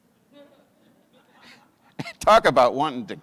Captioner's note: audience chuckles